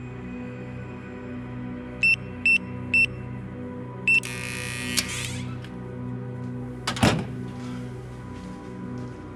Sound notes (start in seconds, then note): 1.8 door Keypad Beeping; 4.0 door Buzzer